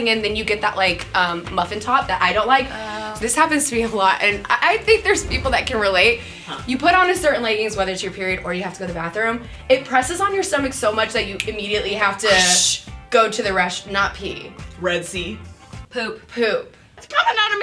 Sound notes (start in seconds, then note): 12.2 mimics peeing sound